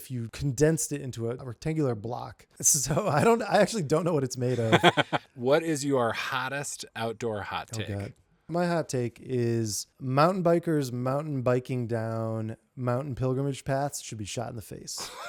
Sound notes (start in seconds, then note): 4.5 laughing